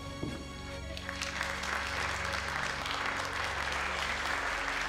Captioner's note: crowd applauding